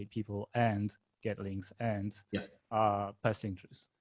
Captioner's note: faintly speaking